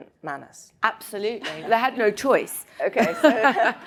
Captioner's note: laughs